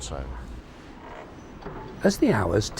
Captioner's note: train passing